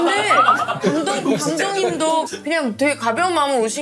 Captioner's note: giggling